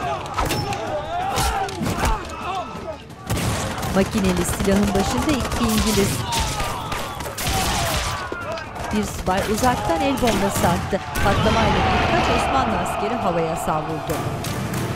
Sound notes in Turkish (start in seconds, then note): 0.3 Dövüş sesleri; 3.2 Silah sesleri; 5.8 İnleme sesleri; 11.1 Patlama sesi; 13.7 Müzik - Gerilim; 14.2 Silah sesleri